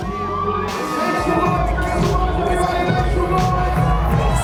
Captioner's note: audience cheering